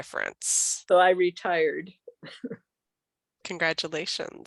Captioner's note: chuckles